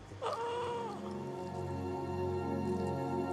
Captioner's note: groaning